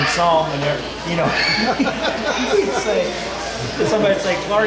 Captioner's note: laughing